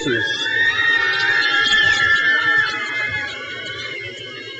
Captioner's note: crowd cheers